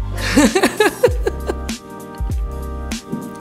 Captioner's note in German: lacht